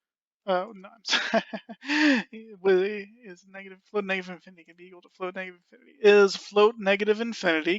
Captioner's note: laughing